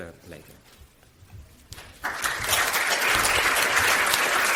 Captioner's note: audience applauds